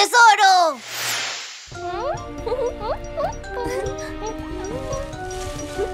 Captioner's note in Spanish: Risas